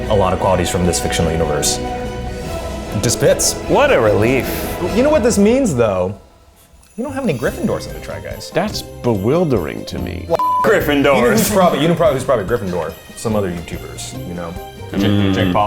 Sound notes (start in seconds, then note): 10.3 beep